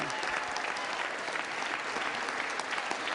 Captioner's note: applause